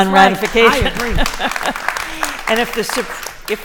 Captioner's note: applause